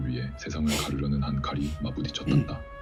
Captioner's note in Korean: 콧방귀